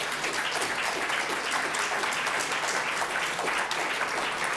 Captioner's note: audience applauding